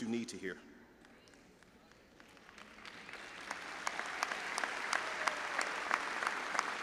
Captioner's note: audience chattering and applauding